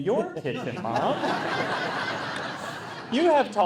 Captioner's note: people laughing